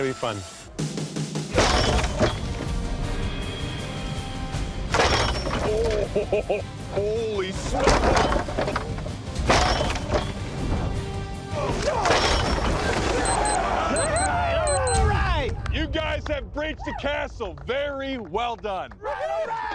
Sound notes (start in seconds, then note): 5.9 laughs; 13.1 all grunting